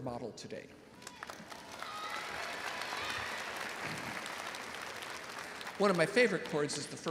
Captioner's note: audience applauding and cheering